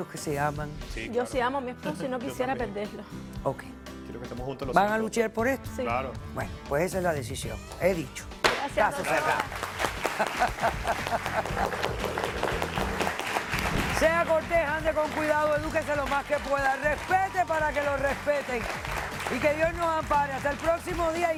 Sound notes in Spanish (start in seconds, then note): 13.1 Aplausos; 13.1 La Doctora ríe